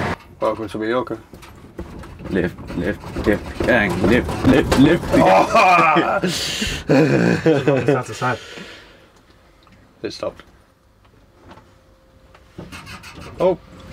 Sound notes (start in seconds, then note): 1.4 lift squeaks with jump; 12.7 lift squeaks